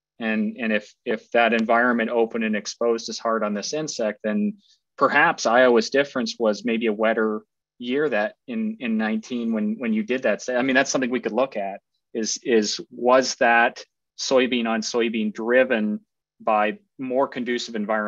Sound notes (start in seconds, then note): none